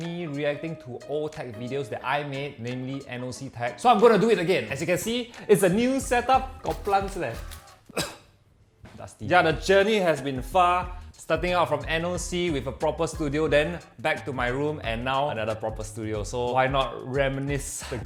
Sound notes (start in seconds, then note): 7.7 cough